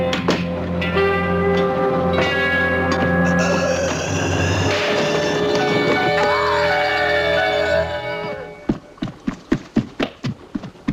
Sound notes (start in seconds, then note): 3.3 muffled scream